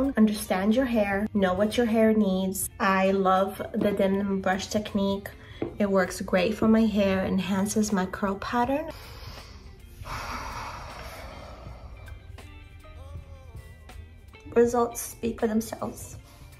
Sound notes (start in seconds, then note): 8.9 deep breathing